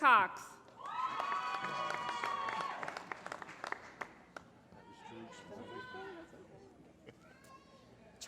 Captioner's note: applause